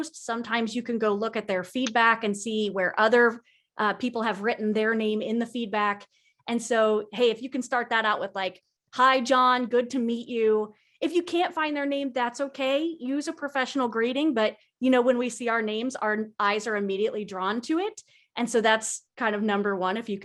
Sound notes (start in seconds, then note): none